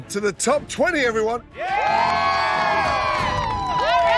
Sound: cheering

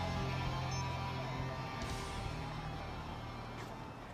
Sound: phone beeps

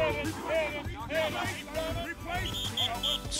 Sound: whistle blowing

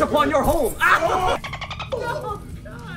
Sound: laugh

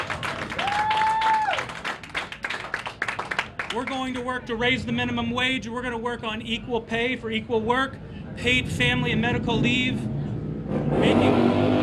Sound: applause

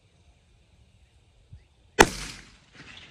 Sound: report of the rifle

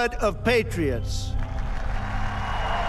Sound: crowd cheering

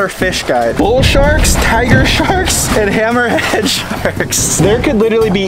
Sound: chuckles

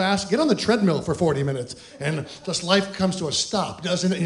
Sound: fake sobs

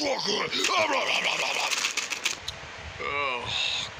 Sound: crunch

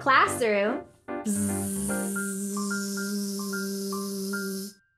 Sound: buzzing

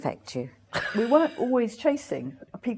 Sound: laughs

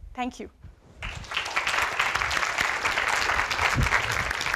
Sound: applause

